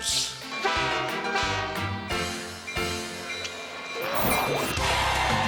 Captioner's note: train whistle blowing; crowd cheering